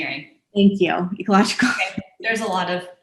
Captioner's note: chuckles